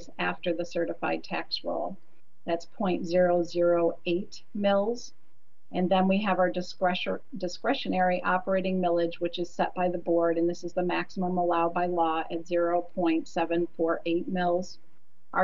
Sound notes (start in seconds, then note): none